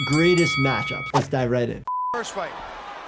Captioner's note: bell rings